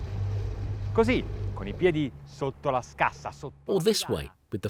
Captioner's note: speaking foreign language